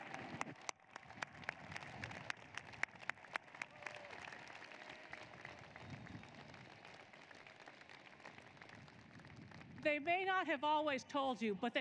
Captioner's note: applause